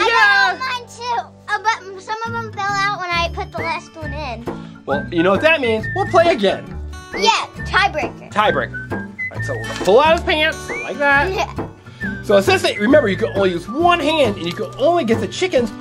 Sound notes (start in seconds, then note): 11.2 laughs